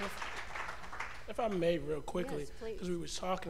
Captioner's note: cheers and applause